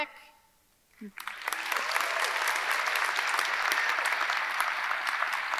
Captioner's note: audience clapping